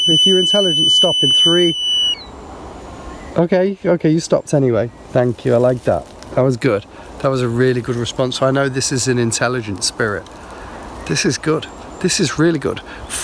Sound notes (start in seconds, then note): 0.0 beeping; 3.3 birds chirping